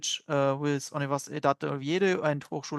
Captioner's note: speaking french